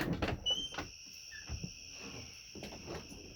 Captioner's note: door squeaks